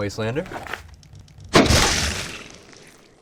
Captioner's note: gunshot